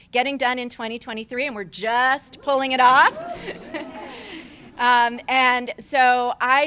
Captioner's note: cheers